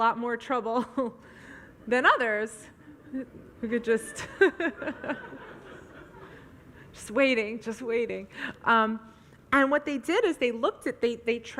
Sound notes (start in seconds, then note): 0.9 audience laughs; 0.9 laughs